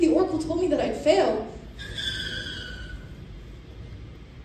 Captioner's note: bus screech